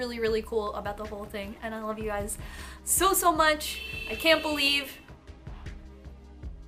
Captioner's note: long car honk